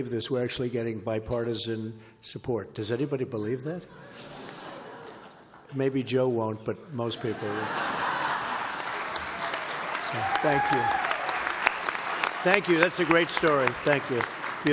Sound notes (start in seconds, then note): 3.8 laughter; 7.2 laughter and applause